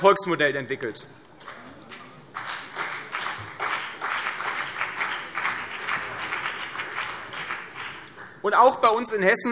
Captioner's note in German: Vereinzelter Beifall CDU und BÜNDNIS 90/DIE GRÜNEN